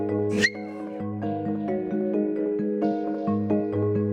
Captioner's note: light music; dog barking